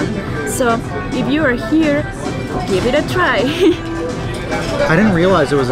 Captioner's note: giggles